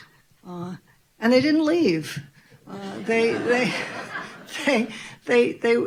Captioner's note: audience laughing